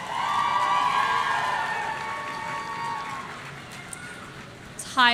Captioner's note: audience cheering